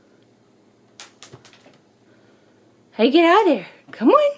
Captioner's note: treat clatters